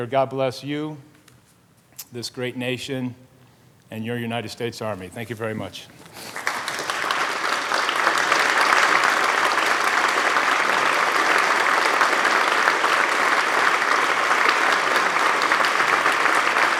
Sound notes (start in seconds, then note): 6.1 applause